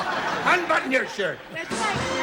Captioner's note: laughter